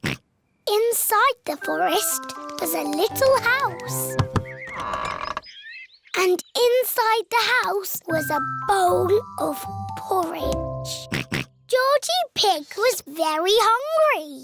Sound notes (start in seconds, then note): 4.1 door creaks; 11.0 oinks